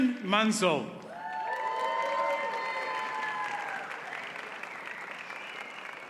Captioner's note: audience cheers and applauds